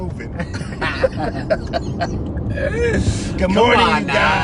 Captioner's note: laughter